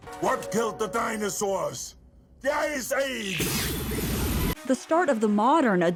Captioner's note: laser sounds